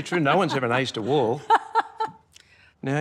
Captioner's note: laughs